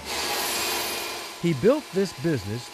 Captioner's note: saw whirring